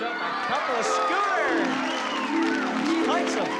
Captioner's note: cheering